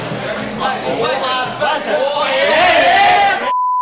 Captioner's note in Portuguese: gritos de incentivo